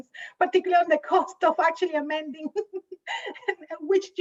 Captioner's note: laughs